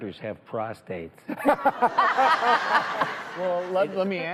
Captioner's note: laughs